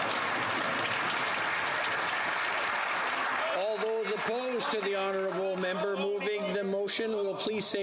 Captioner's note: some Applause